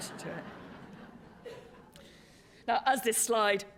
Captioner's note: laughter